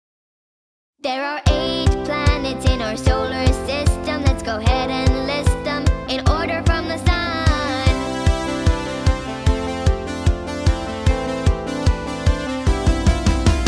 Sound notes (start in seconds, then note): none